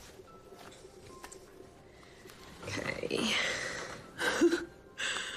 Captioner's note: laughs